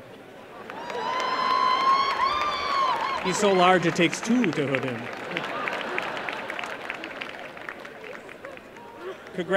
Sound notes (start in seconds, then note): 0.2 applause and cheering; 5.1 laughter and applause